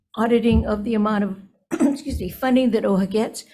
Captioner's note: clears throat